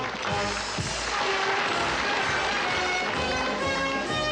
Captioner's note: audience applauds